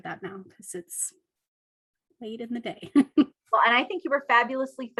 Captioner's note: laughs